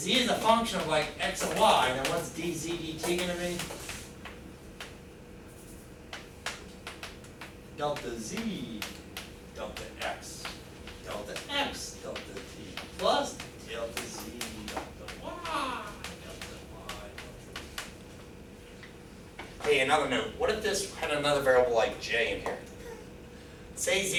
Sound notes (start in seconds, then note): 5.7 chalk clacking